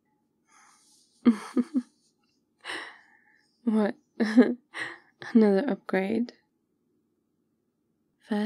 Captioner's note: sly laugh